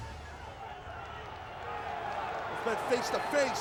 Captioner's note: audience cheering and clapping